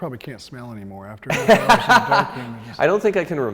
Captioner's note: laughs